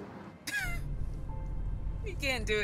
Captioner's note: laughing